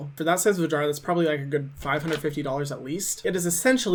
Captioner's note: cash register clicking